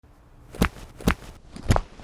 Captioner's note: pad thudding; pad thudding in slow motion